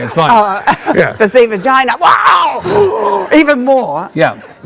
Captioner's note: gasps